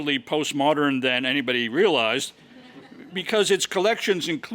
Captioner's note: laugh